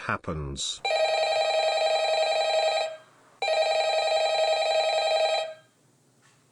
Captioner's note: phone calling